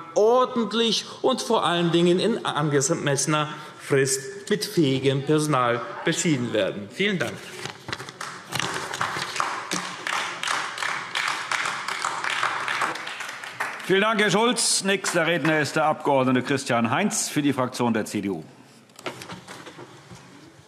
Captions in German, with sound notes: ordentlich und vor allem in angemessener Frist mit fähigem Personal beschieden werden. [Beifall AfD] Vielen Dank, Herr Schulz. – Nächster Redner ist der Abg. Christian Heinz, Fraktion der CDU.